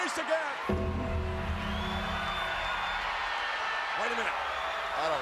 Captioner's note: crowd cheers; bell tolls